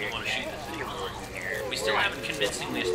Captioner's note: aliens chattering